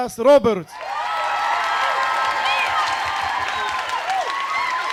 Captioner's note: audience cheering